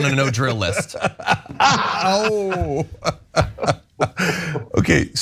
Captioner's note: laugh